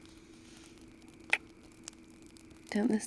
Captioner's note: kiss